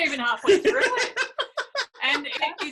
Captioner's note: laughing